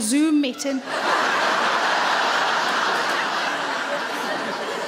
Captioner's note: audience laughs